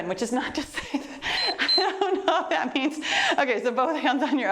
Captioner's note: timer beeps